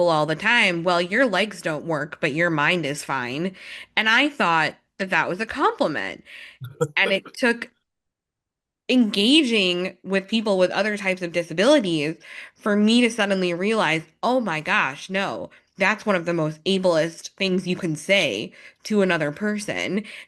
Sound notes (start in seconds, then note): 6.6 chuckles